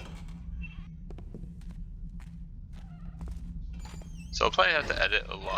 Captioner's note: footsteps, door slams